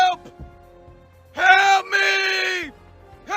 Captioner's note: screaming; screaming